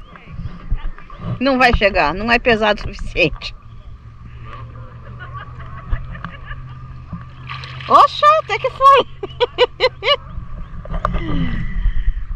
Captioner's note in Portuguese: risos